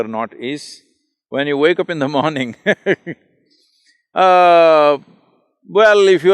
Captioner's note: laughs